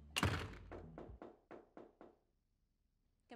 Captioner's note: knocking on door